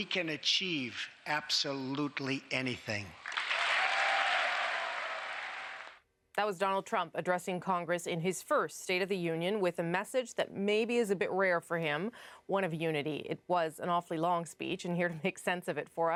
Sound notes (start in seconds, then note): 6.2 cheers and applause